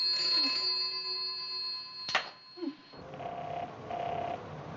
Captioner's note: ringing Continues; whimpers; line Ringing